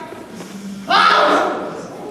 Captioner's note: buzzing; yelps